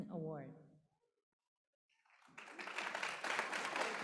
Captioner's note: applause